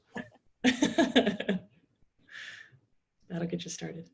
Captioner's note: chuckles